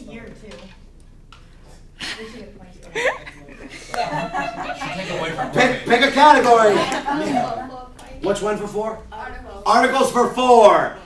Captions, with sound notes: (laughter) Pick a category. Which one for four? Articles for four.